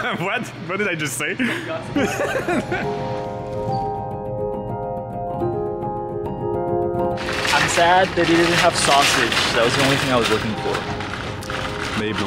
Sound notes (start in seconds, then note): 1.4 laughing